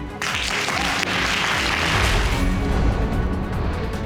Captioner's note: audience applauding